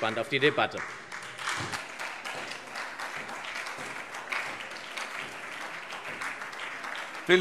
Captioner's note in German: Beifall SPD, vereinzelt Freie Demokraten und DIE LINKE